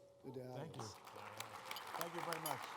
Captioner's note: applause